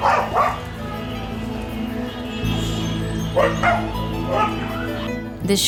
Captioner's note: dogs barking; distant traffic roar; gentle music